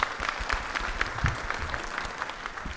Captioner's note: audience applauds